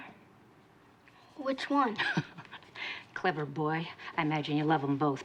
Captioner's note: laughs